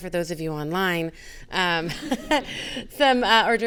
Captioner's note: all laughing